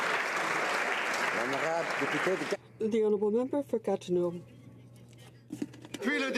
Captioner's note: applause